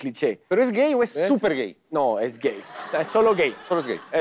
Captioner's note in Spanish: Risas